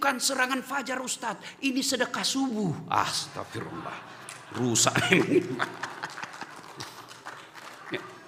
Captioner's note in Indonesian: tertawa